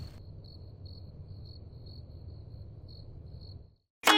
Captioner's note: cricket chirps